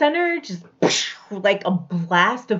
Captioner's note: exploding sound